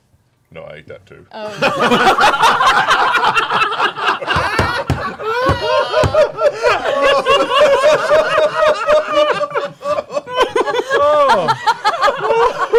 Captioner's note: laughter